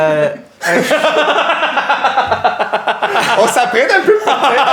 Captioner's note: laughter